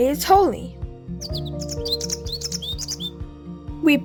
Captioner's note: bird chirping